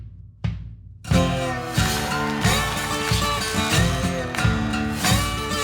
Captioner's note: mellow blues music; audience cheering